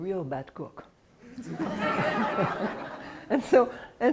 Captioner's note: laughter